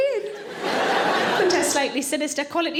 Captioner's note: audience laughing